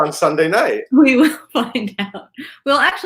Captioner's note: laughs